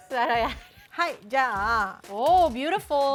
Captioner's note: laughter; speaking Japanese